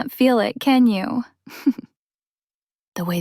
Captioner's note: chuckles